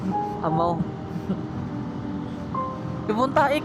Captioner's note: laugh